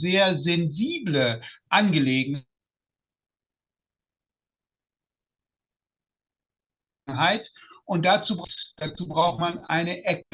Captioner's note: short pause